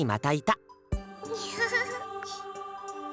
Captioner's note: sheepish laugh